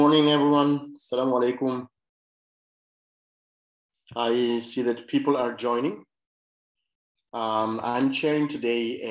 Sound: speaking arabic

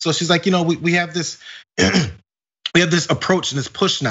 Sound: cough

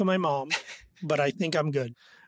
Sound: laughs

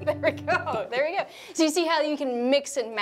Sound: laughs

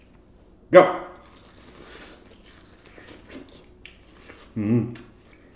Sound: chewing

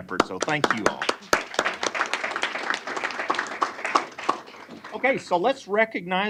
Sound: applause

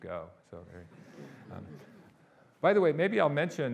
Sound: audience laughing

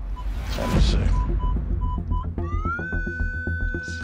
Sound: beeping

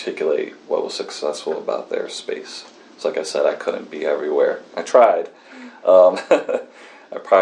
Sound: laughs

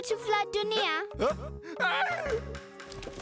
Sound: yelling

